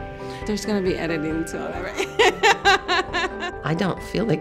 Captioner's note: laughs